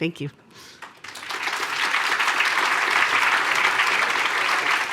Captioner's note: applause